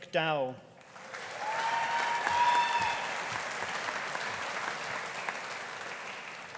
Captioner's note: audience applauding; audience cheering